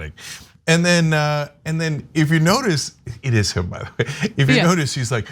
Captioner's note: laugh